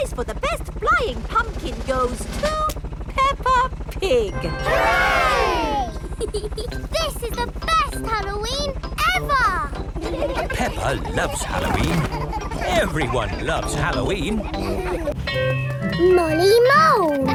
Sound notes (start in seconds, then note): 5.8 peppa giggles